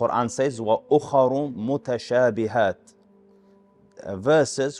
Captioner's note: Arabic